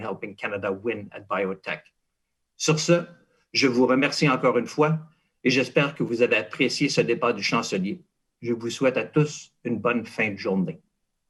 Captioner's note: speaking in French